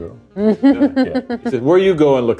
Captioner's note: laughs